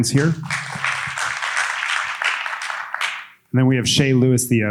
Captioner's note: audience applauding